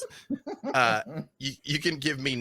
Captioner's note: laughs